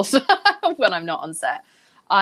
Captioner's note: Jameela laughing